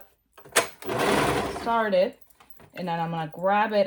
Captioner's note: machine whirring